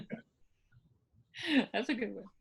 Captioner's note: laughing